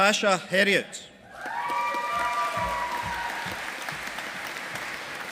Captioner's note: audience applauding